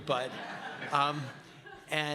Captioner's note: laughing